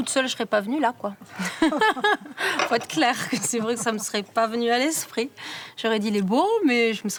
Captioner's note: laughs